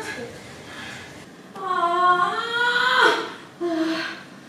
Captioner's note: screams